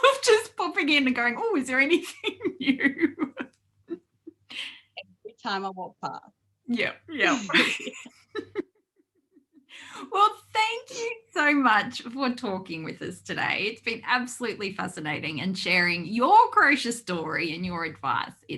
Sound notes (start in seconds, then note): 1.9 laughs; 7.3 both laugh